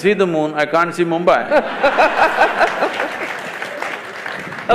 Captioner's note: laughter/Applause; 笑聲/掌聲